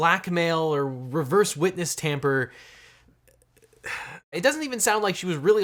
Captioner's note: sighs